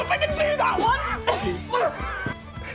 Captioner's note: laughs